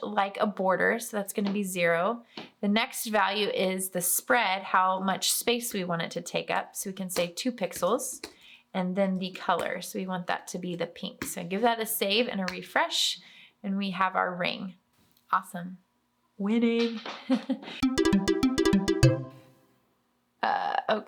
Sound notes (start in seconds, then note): 17.2 chuckles; 17.8 cheerful music